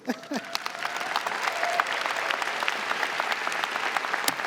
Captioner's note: audience clapping